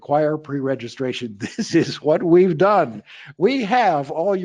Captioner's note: laughing